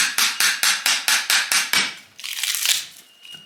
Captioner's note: hammering & bark tearing sounds continue